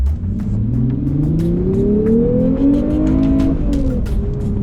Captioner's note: car engine roaring